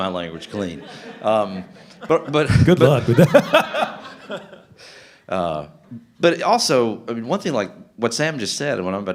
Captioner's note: laughter